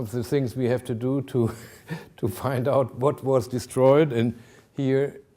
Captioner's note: chuckling